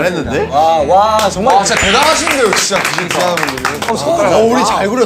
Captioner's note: clap Clap